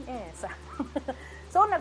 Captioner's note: laughs